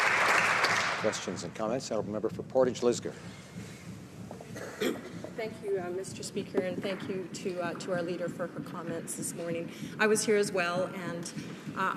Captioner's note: some Applause